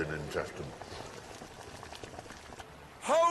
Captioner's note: sizzling and bubbling